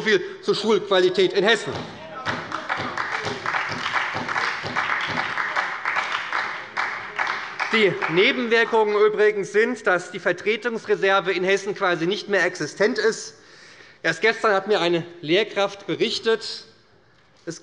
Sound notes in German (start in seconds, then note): 2.0 Beifall bei der SPD - Zurufe von der CDU